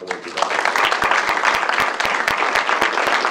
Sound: applause

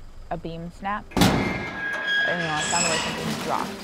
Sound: snap, metal creaking

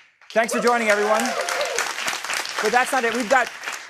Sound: applause

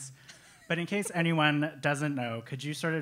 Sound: laugh

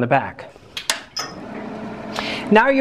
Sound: projector humming

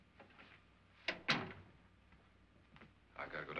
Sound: door closes

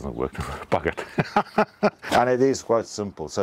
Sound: speaker laughing

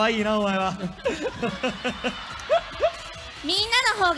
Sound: audience screaming kawaii

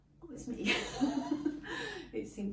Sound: laughing

